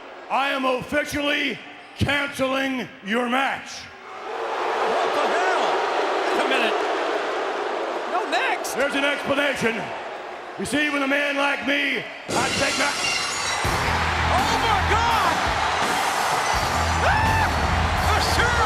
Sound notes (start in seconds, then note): 4.4 audience booing; 12.4 rock music; 12.5 glass shattering; 13.6 audience cheering